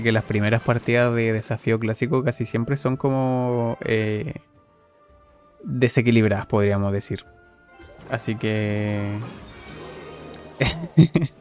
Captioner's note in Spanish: risas